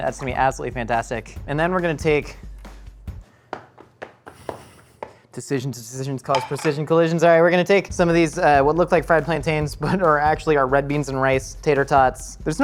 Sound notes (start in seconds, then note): 4.6 stomps